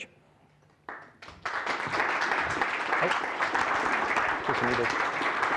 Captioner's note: applause